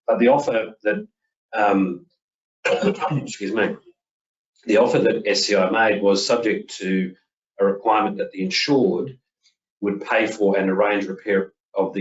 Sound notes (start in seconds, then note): 2.6 coughing